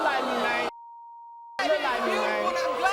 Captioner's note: audience booing